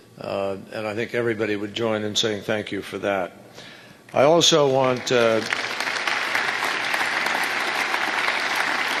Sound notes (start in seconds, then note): 4.4 applause